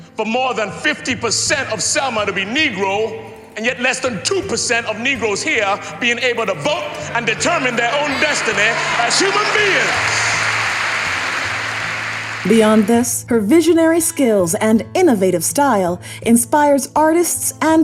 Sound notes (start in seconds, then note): 10.0 crowd applauding